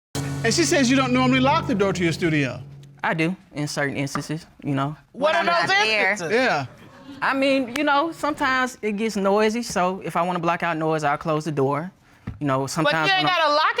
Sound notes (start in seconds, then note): 6.6 audience laughs